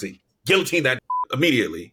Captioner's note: beep